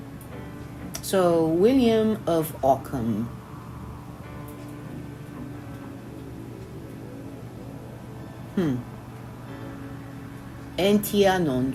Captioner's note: Latin